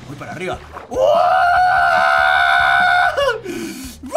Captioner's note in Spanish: Emocionado